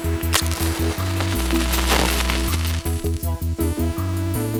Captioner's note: audience clapping; match lighting